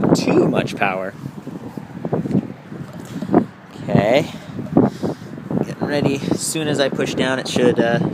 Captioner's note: motor noise